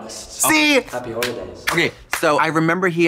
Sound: Trixie clapping

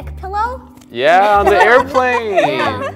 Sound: laughs

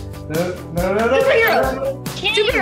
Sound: Jaren vocalizing

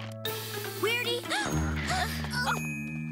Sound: all gasp

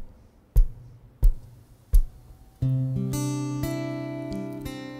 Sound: guitarist tapping guitar; soft guitar music

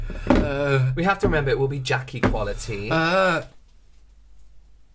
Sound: burp

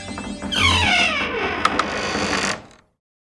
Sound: door creaking

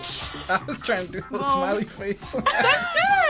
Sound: laughs

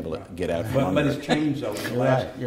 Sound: laughter

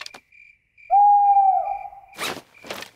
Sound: hooting

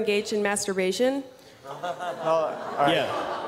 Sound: laughter

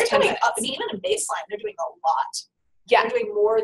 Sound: voiceover

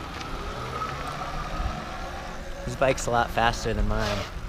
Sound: wheels spinning on concrete; motor whirring

